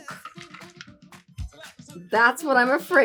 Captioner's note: clinking ice